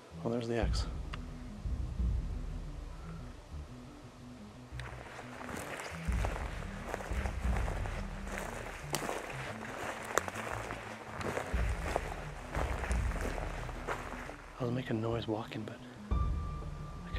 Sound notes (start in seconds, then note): 1.6 suspenseful music; 5.0 footsteps thudding